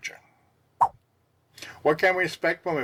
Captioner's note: swipe Sound